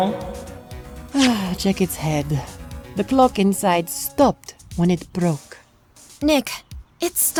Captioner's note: sigh